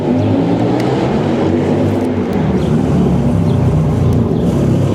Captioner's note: car motor roaring